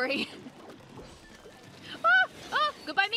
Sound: laughing

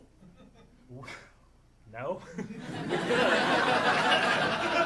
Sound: audience laughing

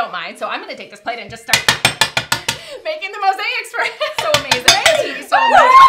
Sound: hammering; laughter; squeals of excitement

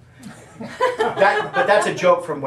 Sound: audience laughing

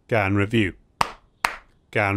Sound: clap Clap

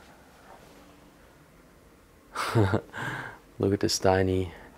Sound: laughing

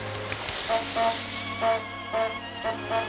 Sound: goose Honk

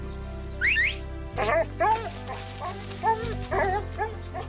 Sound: whistling

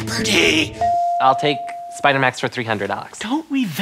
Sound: ding

